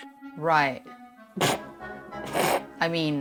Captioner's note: snorts